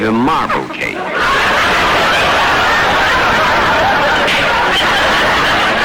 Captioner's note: audience laughter